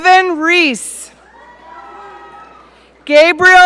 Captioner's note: audience cheering